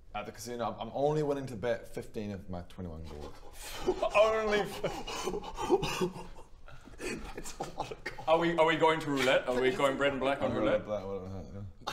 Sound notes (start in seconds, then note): 3.6 sharp intake of break; 5.3 shocked laughter